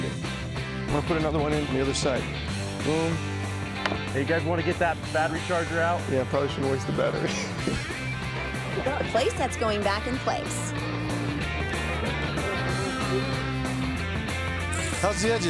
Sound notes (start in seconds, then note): 7.1 laughs